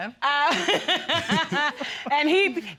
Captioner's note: laughing